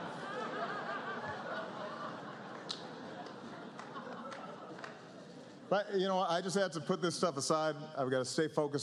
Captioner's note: laughter